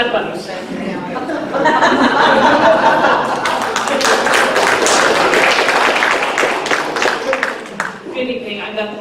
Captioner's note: laughter, applause